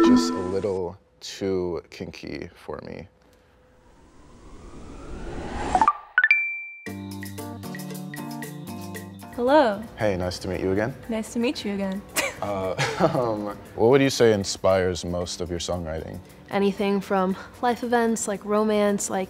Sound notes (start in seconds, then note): 3.7 air whooshing; 5.8 ascending beeping; 7.1 light hearted music